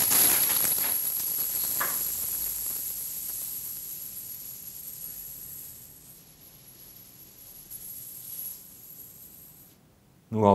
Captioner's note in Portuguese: barulho de moedas caindo